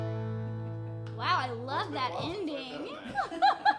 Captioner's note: laughing